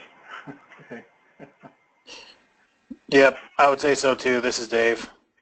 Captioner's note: laugh